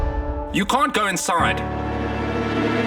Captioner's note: male Voice